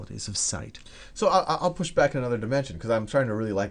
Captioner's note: voiceover